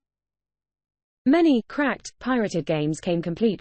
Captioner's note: british female voice